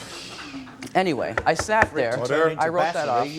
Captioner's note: audience laughing; gavel taps